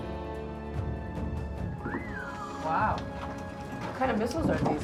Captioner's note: whistles